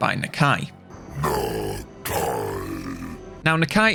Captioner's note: Nakai growls